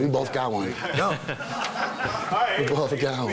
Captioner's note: laughing